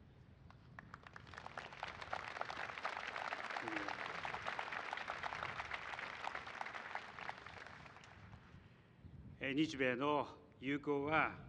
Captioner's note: applause